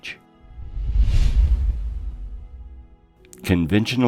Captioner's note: air whooshing